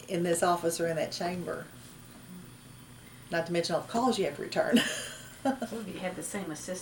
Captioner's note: laughs